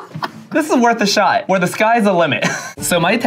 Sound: laughs

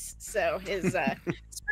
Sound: chuckles

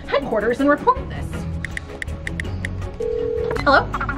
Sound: phone dialing

